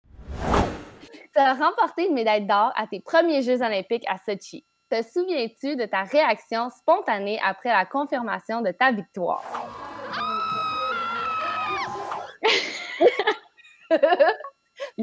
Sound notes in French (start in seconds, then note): 9.4 grand cri; 12.4 rires